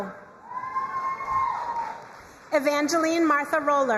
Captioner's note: crowd cheering and applauding